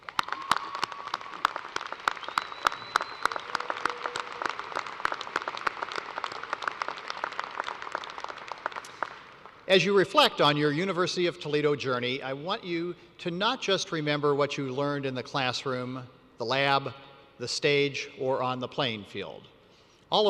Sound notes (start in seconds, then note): 4.9 applause